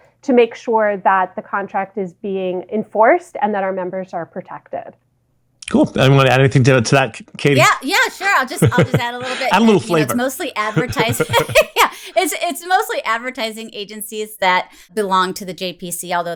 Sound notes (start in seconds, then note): 11.1 laughs